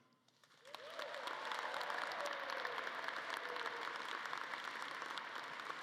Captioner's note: audience cheering and clapping